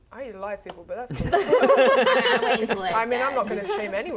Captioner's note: laughing